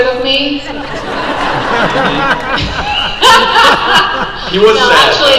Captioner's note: crowd laughs